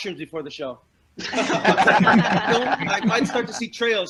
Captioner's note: laughter